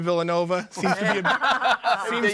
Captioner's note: all laughing